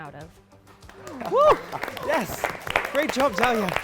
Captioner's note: people clapping